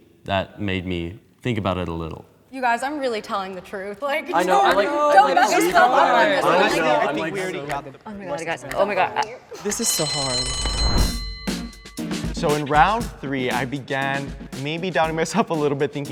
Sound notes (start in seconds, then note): 4.1 group chattering; 9.6 alarm ringing